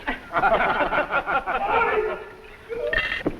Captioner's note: all laughing